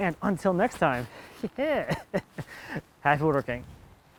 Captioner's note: laughing